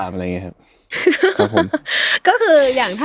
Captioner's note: laughs